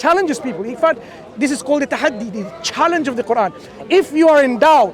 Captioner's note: Arabic